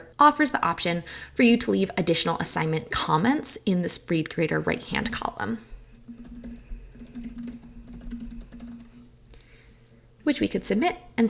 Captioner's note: typing